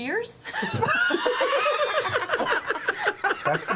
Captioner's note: all laugh